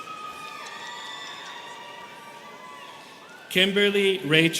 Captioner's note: students cheering